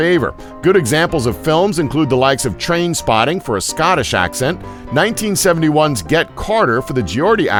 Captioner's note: Scottish accent